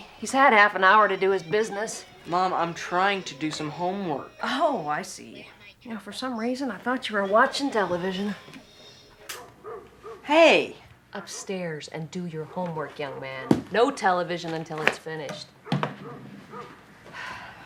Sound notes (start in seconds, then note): 9.2 dog barking; 9.4 remote clicks